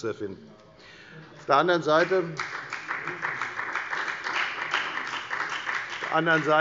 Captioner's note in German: Beifall bei der FDP